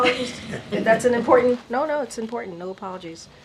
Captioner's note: laughter